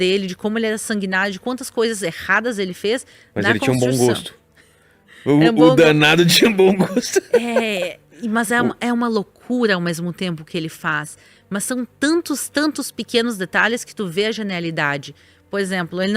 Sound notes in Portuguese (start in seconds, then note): 6.6 risadas